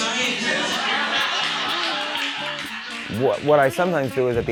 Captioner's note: audience laughing